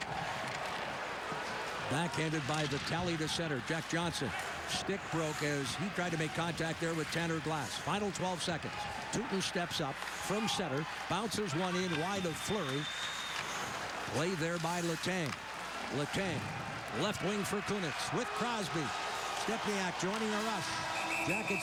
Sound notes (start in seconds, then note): 3.9 cheers and applause